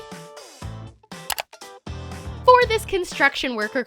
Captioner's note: clicking